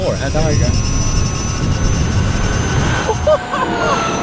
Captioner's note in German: elektronisches Beschleunigungsgeräusch; lacht begeistert